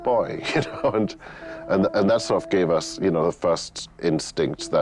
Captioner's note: laughs